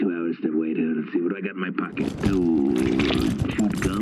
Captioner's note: mumbling, rifling through pockets